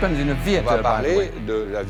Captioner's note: speaking french